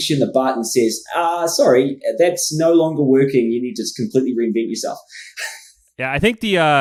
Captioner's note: laughs